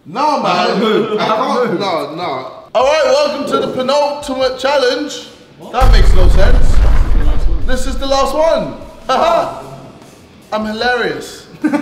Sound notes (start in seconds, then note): 5.8 explosive sound